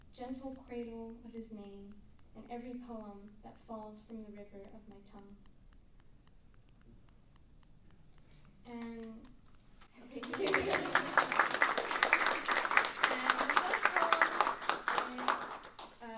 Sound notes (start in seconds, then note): 10.0 laughs; 10.1 applause